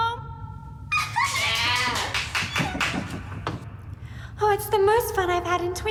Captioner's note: applauding